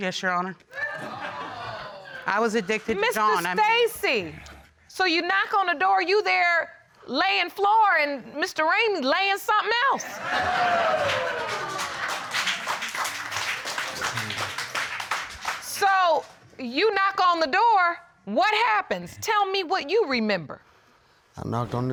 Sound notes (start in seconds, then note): 0.7 audience exclaiming; 10.0 audience laughing; 12.2 audience applauding